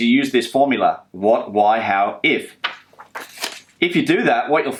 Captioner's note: paper sliding